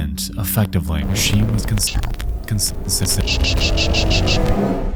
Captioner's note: interference buzzes; foreboding music